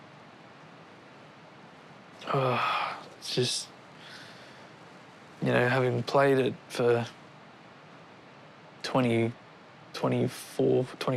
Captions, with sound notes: (GROANS) It's just, you know, having played it for... 20... 24, 25 years,